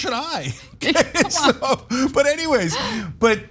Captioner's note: laugh